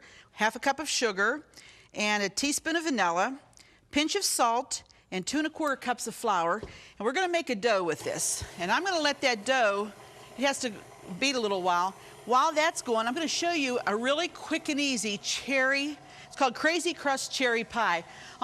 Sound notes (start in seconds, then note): 8.7 mixer whirring